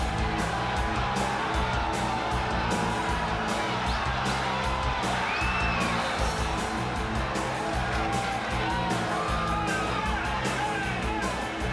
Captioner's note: crowd cheering